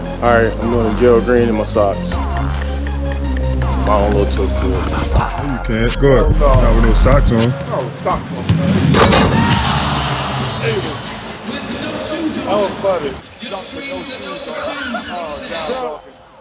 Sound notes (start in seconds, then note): 2.4 upbeat music; 8.4 fans cheering